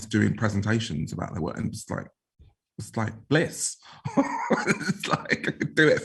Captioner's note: laughs